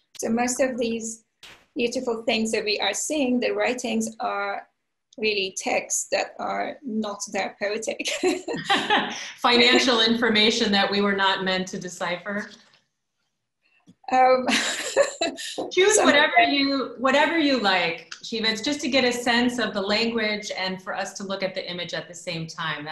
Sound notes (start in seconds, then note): 8.1 laughter; 8.1 laughs